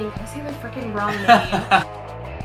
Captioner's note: laughs of disbelief/relief